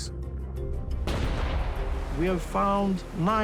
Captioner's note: gun fires